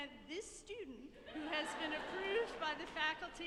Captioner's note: audience laughing